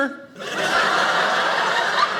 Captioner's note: audience laughing